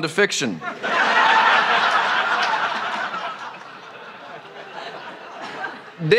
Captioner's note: laughter